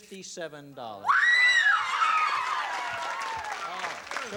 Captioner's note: screaming